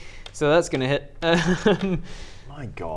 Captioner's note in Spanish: ríe